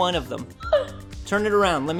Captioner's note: gasp